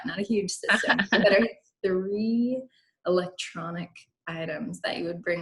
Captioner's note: laughs